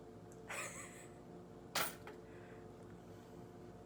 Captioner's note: laughs